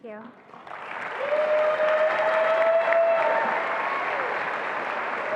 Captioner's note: attendees applauding and cheering